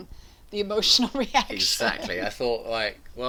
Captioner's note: both laugh